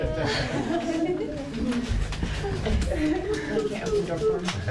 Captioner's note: chuckles